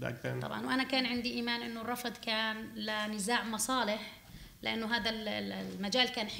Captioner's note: speaking arabic